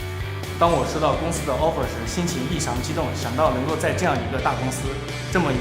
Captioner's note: upbeat music; speaks in foreign language